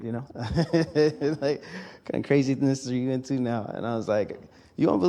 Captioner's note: laughs